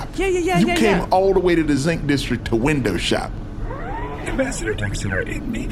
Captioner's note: whispered